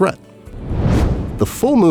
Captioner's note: whoosh